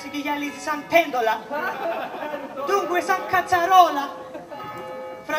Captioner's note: γέλια